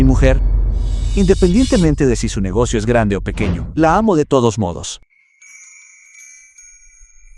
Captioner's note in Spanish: campana